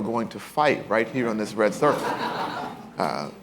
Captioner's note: laughter